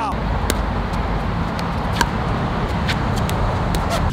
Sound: ball bouncing

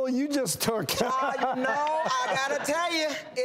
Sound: laughing

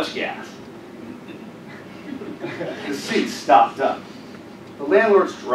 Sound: laugh

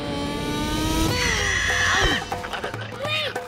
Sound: squawking

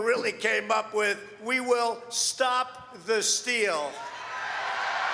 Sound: applause

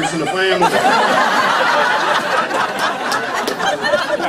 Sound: laughter

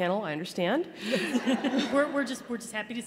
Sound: laughter

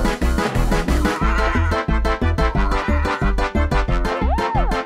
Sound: Pato gasping

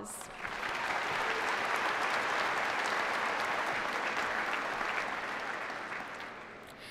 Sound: applause

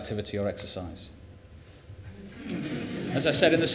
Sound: laughter

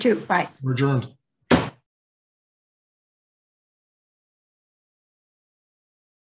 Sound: bangs the gavel

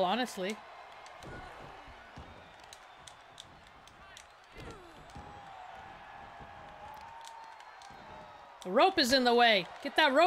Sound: applause

